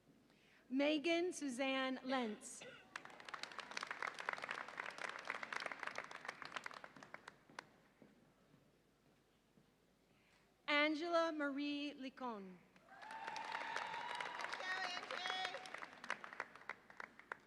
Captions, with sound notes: Megan Suzanne Lenz. (audience applauds and cheers) Angela Marie Licon. (audience applauds and cheers)